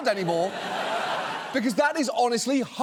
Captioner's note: studio audience laughs